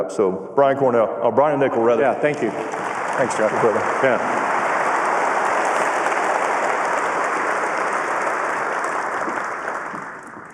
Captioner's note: applause